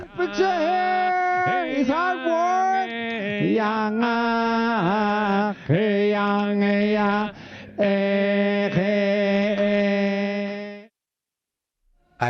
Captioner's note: chanting